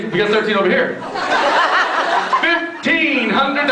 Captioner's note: laughs